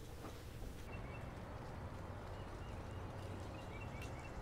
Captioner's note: birds chirping